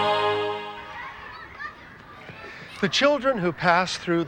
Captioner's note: children shouting